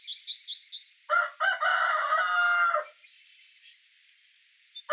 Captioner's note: birds chirping; rooster crowing